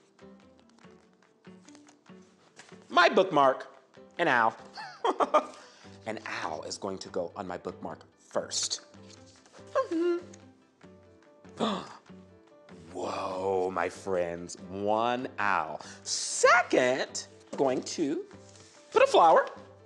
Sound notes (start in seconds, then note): 10.0 humming; 11.6 gasps